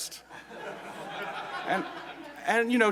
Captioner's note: laugh